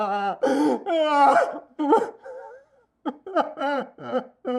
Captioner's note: Logan sobbing